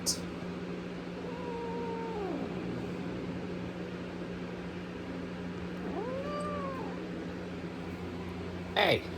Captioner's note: Caprice growls and yowls